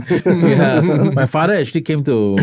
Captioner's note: laughter